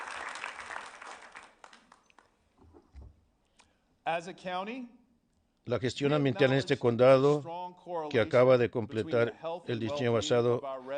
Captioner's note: applause